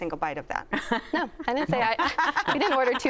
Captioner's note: laughter